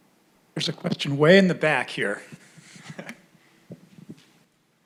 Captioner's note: laughs